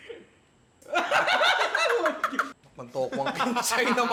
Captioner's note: laughter